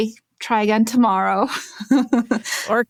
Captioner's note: chuckles